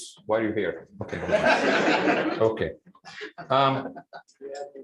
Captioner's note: laughter